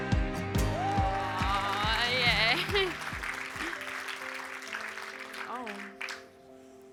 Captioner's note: cheers and applause